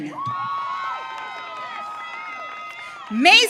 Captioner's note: audience cheering